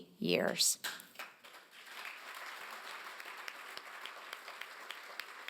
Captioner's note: applause